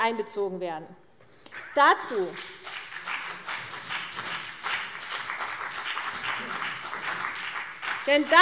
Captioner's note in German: Beifall CDU und vereinzelt BÜNDNIS 90/DIE GRÜNEN